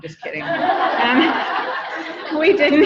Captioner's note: audience laughing